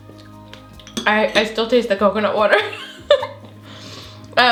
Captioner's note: chuckles